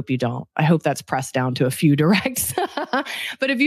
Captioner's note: laughs